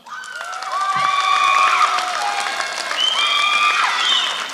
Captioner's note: applause